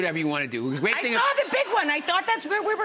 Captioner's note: audience laughing